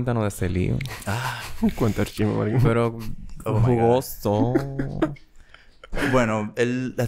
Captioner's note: laughs